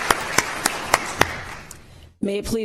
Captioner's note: applause